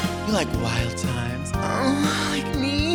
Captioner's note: glamorous music; moans